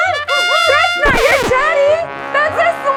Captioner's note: trumpet horns; tuba blows; record skips; exciting gorilla sounds